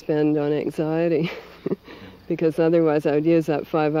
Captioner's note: laughs